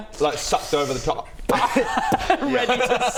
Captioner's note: pop